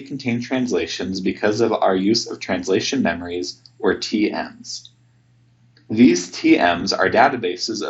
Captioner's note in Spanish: en español